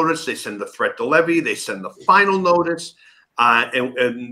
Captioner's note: none